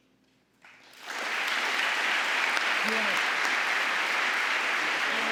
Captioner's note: audience applauding; Gingrich drowned out by applause